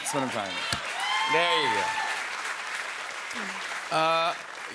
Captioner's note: cheers and applause